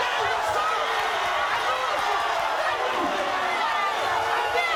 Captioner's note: audience cheers; yelling